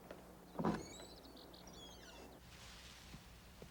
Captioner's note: door creaks